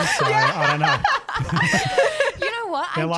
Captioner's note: laughing together